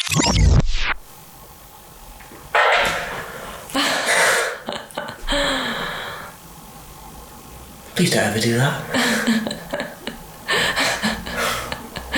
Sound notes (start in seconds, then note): 2.5 walkei talkie goes off; 3.7 laughs; 10.3 laughing